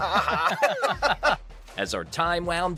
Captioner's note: both laughing